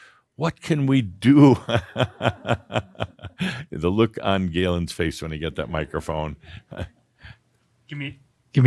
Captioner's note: Adamus chuckles